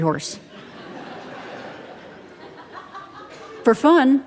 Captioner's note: audience laughing